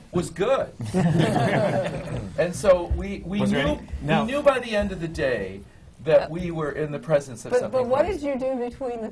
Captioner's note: laughter